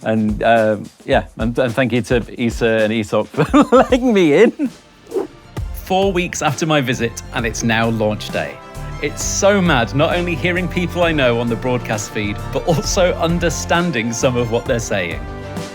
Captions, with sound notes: And, yeah. And thank you to ESA and ESOC (laughs) for letting me in. Four weeks after my visit, and it's now launch day. It's so mad not only hearing people I know on the broadcast feed, but also understanding some of what they're saying.